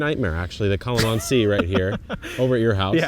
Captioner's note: laughs